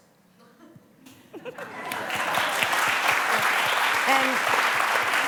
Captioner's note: applause